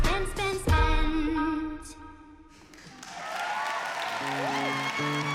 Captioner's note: cheering